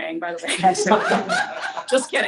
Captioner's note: laughter